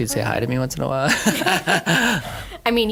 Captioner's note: laughing